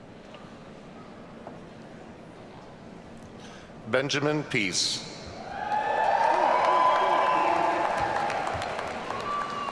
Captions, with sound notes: - Benjamin Peace. (audience cheering) Gabrielle Sims.